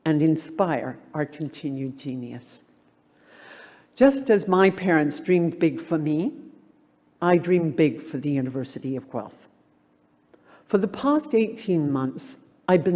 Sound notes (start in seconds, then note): none